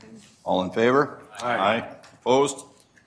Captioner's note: multiple voices